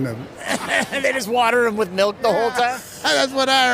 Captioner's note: laughs